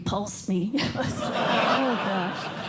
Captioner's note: laughter